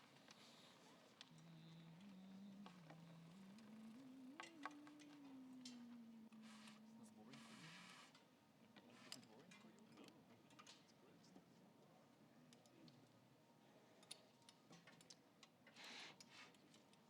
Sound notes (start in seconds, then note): 1.3 person humming